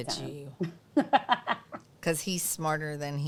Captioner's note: laughs